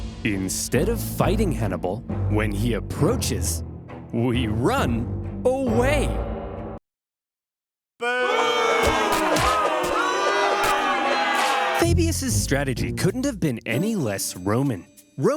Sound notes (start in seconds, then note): 8.0 senators booing